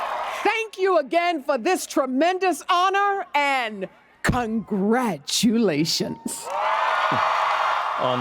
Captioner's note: applause